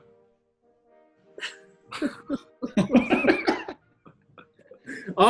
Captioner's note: giggling